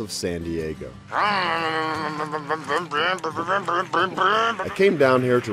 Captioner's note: vrooming noises